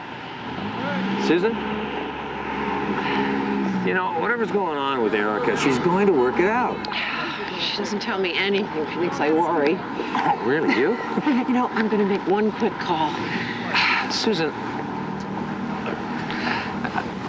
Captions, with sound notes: Susan... You know, whatever is going on with Erica, she's going to work it out. She doesn't tell me anything. She thinks I worry. Oh, really, you? (CHUCKLES) You know, I'm gonna make one quick call. (SIGHS) Susan...